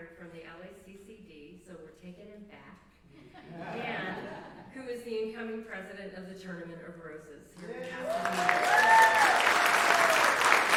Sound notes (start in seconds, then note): 3.1 laughter; 7.6 applause